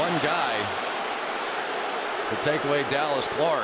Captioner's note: crowd clamoring